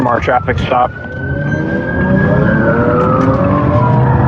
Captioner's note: siren